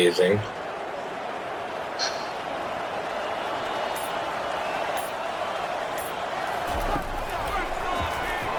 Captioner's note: crowd Noises